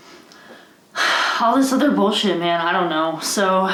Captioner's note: sighs